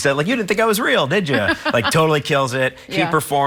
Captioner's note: laughs